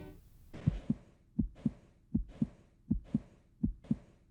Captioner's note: heartbeat thumping